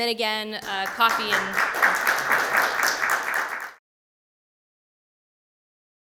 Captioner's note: audience applauds